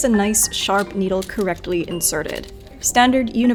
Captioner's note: needles rattle